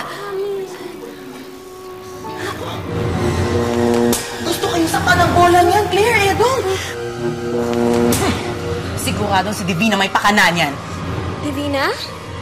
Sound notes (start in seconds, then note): 2.8 buzzing; 6.9 buzzing; 8.0 scoffs